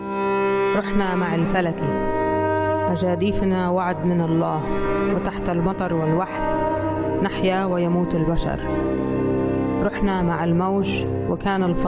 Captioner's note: reading in Arabic